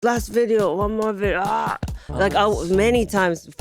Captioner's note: groans